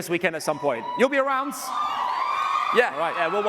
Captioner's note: cheers and applause